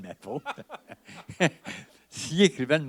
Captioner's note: laughter